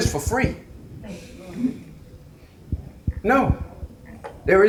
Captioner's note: audience members chattering